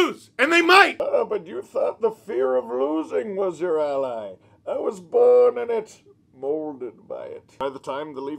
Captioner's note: Bane voice